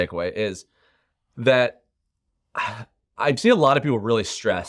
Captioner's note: exhales sharply